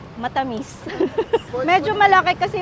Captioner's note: giggles